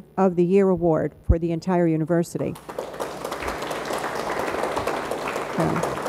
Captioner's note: audience applauds